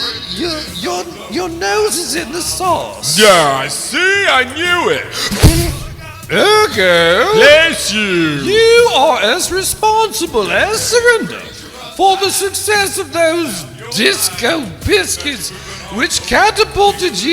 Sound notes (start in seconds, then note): 4.6 spitting